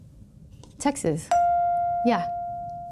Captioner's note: chime pings